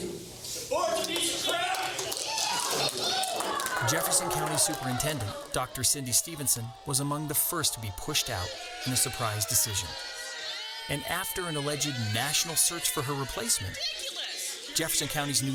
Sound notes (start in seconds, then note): 3.0 crowd yelling; 11.2 crowd booing